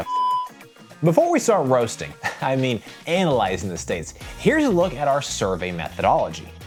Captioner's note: laughs